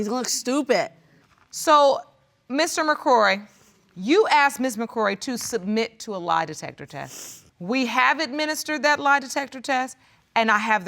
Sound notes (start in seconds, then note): 7.0 sniffles